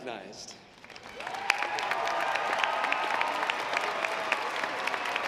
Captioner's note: audience applauds